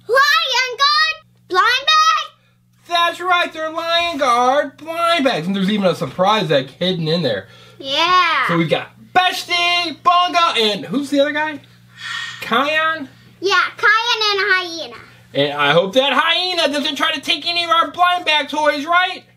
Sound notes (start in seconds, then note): 12.0 assistant sighs